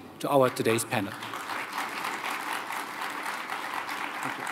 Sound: applause

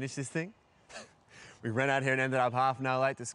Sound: laughs

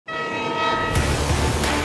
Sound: train whistle blowing

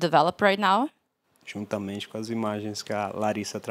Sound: non-english speech

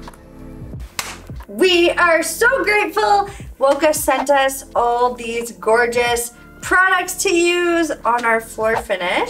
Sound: clapping

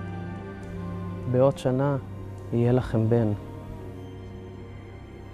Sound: speaking in Hebrew

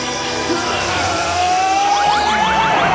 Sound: roaring

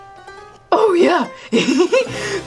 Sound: laughs

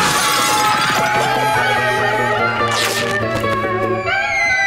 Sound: screaming

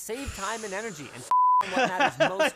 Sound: takes deep breath; laughter

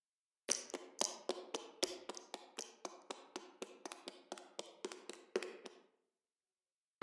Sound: heeled shoes tapping

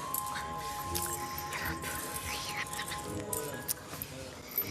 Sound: Candy whispering

